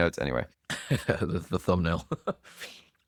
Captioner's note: laughs